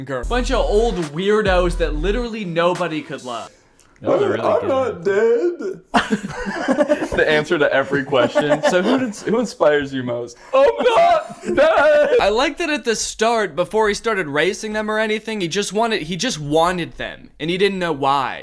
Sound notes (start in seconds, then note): 5.6 laughter